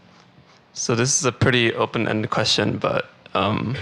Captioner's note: voiceover